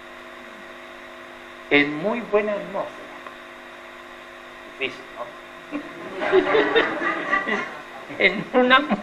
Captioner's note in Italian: risate